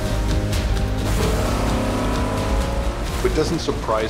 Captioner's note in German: Motorengeräusche des Boots; Eintauchen ins Wasser